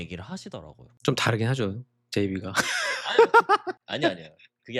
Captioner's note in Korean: 웃음